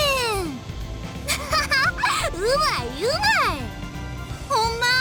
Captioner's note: laugh